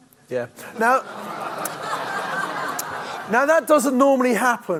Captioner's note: audience laughs